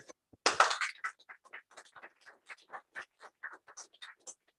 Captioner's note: applause